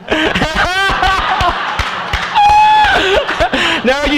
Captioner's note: loud laughter and applause